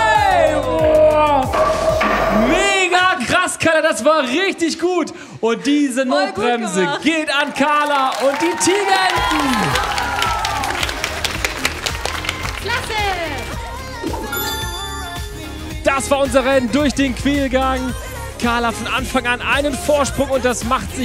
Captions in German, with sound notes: Oah! Megakrass, Carla. Das war richtig gut. Und diese Notbremse geht an Carla und die Tigerenten. (Jubel) "Klasse". (Entspannte Musik) Das war unser Rennen durch den Quälgang. Carla von Anfang an einen Vorsprung,